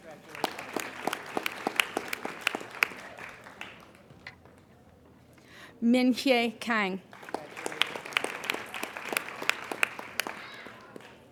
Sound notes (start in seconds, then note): 0.0 applauding; 6.7 applauding